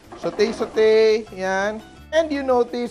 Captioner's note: sizzle